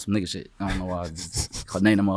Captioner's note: snickering